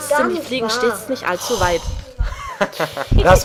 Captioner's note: sound of annoyance; some laugh